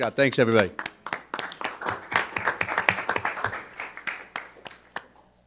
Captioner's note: audience applauding